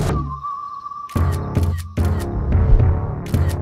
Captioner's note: camera shutter clicking